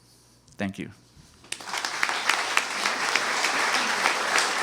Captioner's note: applause